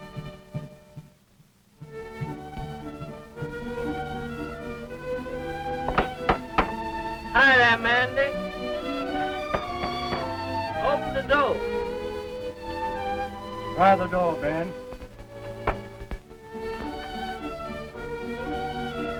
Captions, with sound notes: (soft knocking) Hi there, Mandy. (soft knocking) Open the door. - Open the door, Ben. (sentimental music)